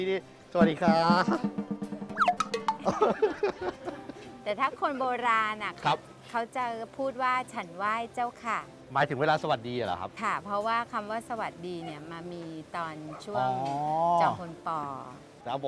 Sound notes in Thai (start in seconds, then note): 2.8 เสียงหัวเราะ